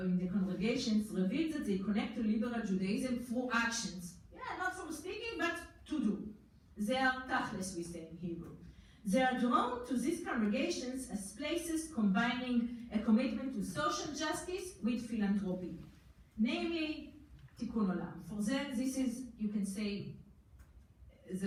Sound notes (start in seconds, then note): 5.9 foreign language; 15.1 foreign language